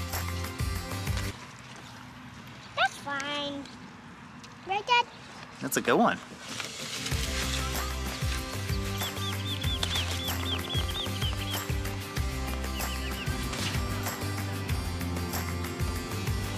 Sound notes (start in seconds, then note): 7.0 mellow music; 9.3 birds chirping; 12.9 mellow music continues